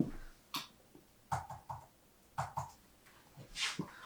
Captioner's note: cautious footsteps; typing